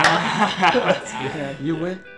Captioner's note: laughs